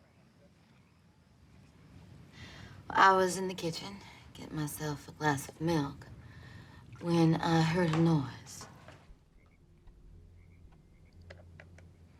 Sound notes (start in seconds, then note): 9.0 clattering